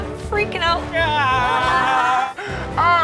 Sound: exclaims

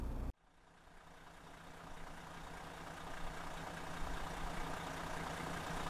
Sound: diesel engine idling

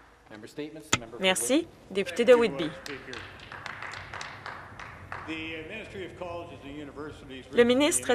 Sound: some Applause

